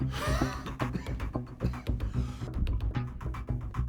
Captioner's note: David coughing